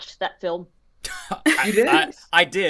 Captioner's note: laughing